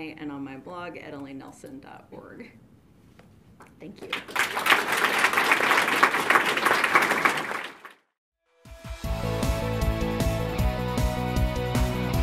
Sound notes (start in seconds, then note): 4.0 audience claps; 9.0 upbeat electronic rock